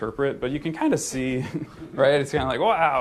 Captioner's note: laughter